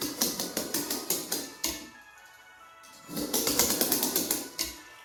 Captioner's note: pencil clicking on wood